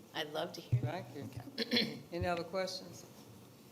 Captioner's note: clears throat